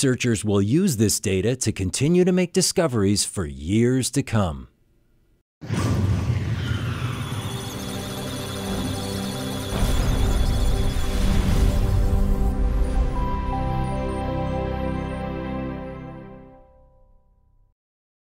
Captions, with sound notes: Researchers will use this data to continue to make discoveries for years to come. (Electronic Sounds of Data) (Musical Tones)